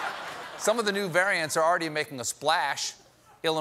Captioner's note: laughter